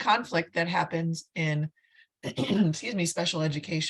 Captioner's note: clears throat